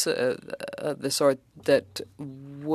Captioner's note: speaking French